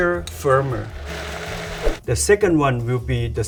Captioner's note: blender whirring